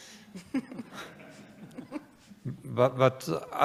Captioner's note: laughter